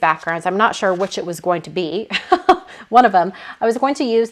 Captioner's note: laughing